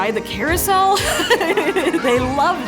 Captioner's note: laughing